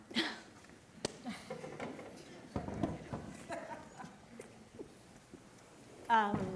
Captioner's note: students laughing